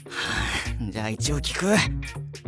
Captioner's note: sigh